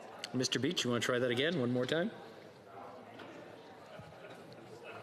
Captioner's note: laughter